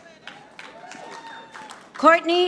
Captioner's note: audience applauding